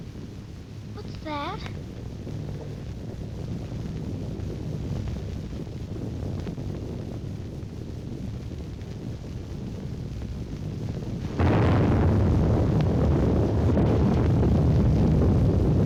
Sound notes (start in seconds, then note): 0.3 volcano rumbling; 7.1 volcano erupting